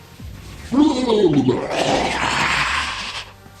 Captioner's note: heartbreaking scream